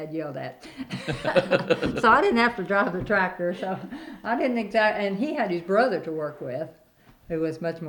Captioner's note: laughter